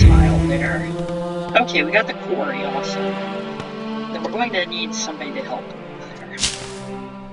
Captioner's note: chop